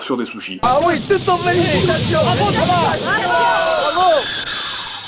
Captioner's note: jury's cheerings